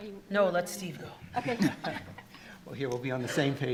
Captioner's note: attendees laughing